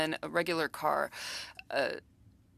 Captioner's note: speaking french